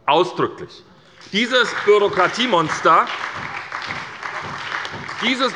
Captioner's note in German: Beifall bei der SPD